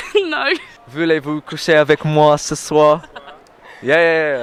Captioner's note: laughs; foreign language; laughing